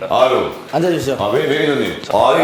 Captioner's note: super serious